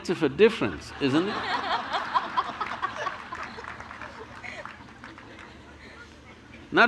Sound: laughter

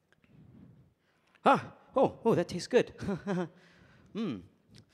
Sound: chuckles

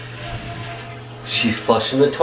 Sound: toilet flush

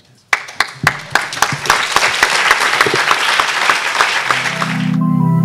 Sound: applause

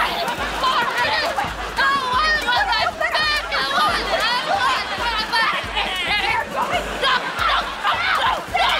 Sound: arguing

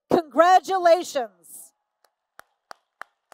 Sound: applause

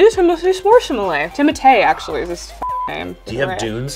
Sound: beep

